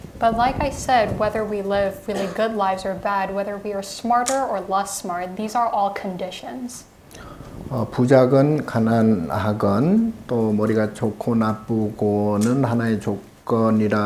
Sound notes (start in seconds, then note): 7.9 speaking Korean